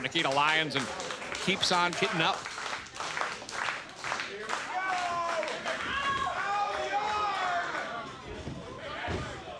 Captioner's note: crowd clapping